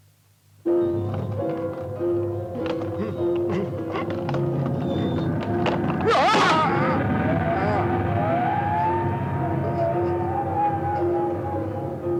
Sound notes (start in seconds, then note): 7.5 Stinnel groans; 8.7 eerie music continues